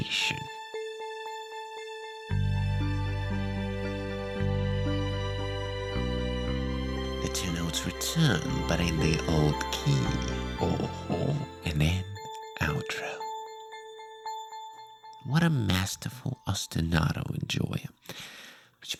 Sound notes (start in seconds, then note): 1.0 scary scary cold sounds